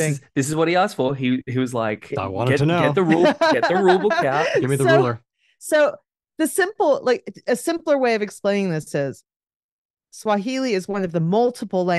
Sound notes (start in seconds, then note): 2.8 laughs